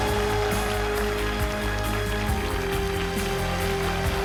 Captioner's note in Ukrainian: оплески